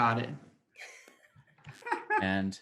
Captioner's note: players laughing